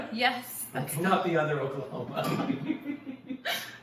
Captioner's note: laughing